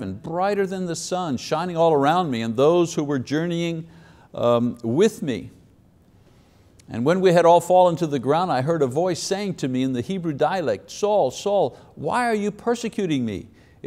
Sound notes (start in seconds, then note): none